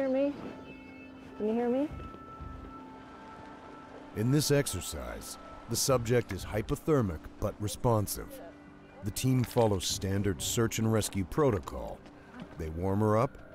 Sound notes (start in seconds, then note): 3.8 voiceover